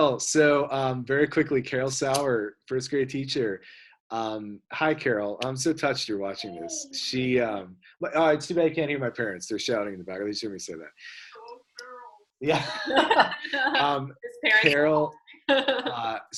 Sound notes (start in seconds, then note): 12.5 laughter